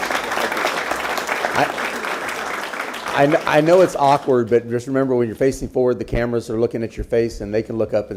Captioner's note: applause